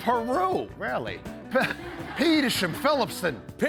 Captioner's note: laughter